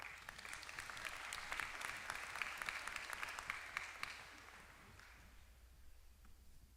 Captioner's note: applause